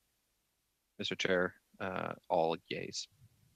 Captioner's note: speaking French